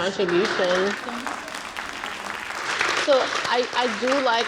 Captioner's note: audience clapping